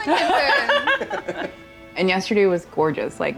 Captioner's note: all laugh